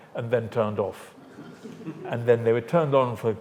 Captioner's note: audience laughs